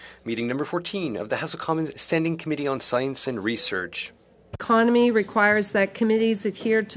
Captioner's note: speaking French